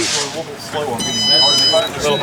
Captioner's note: rocket launching; beeping